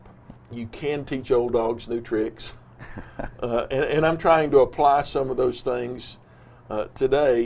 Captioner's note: laughs